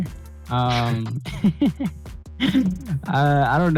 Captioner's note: laugh